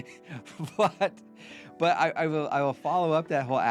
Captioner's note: both laughing